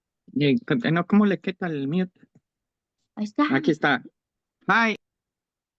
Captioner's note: interpreter speaking in Spanish